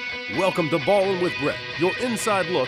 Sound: voiceover

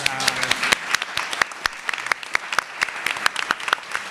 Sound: applause

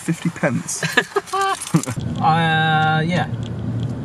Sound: both laughing

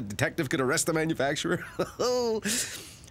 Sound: laughs

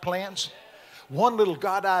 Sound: congregation shouting

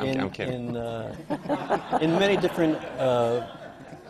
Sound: laughs; laughter

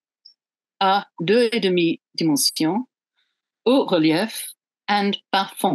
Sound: speaks foreign language

